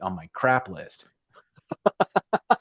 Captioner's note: laughter